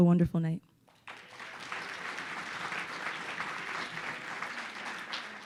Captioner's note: audience applauding